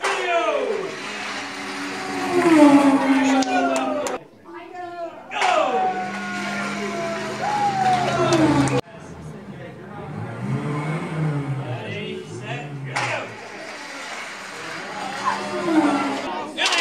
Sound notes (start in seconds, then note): 0.0 car race sound effect; 13.7 car race sound effect